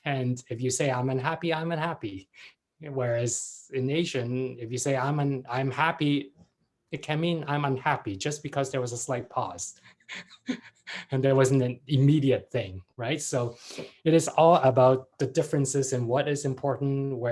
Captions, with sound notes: And if you say I'm unhappy, I'm unhappy. Whereas in Asian, if you say I'm happy, it can mean I'm unhappy just because there was a slight pause (laughs) and there wasn't an immediate thing, right? So it is all about the differences in what is important.